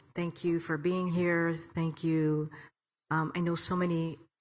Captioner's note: none